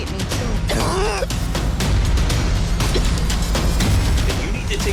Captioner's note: sick person coughing